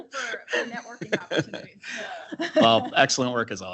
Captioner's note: everyone chuckles